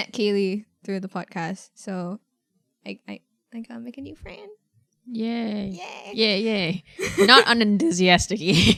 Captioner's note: enthusiasitc yay